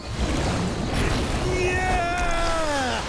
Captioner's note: grunting